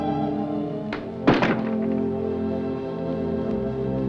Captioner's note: door Closes